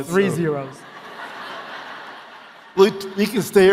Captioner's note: audience laughing